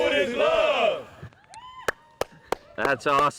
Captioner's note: cheering, applause